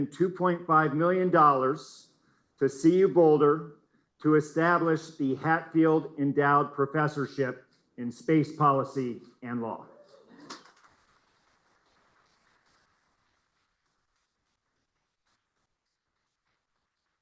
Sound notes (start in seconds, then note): 10.4 applause